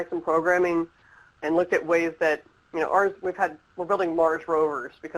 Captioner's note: stutters